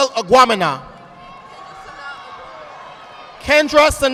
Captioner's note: audience applauding